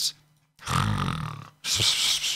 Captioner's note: snores